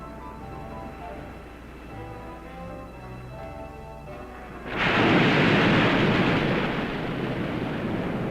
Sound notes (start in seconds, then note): 0.8 waves crashing; 4.6 waves roaring